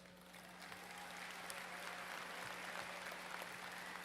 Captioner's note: applause